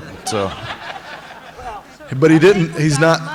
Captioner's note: laughter